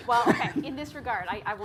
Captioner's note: laughing